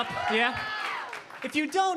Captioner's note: audience cheering